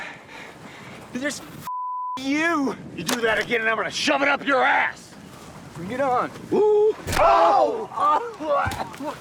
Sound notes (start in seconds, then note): 6.8 DeMicco grunts; 7.0 fleshy thud